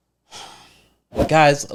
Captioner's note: sighs